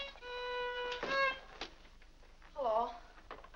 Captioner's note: door closes